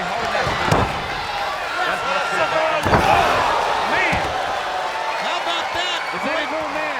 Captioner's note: applause